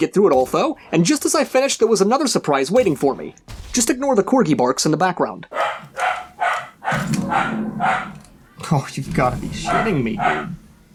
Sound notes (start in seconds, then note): 5.5 barking